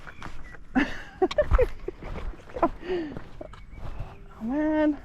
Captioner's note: laughing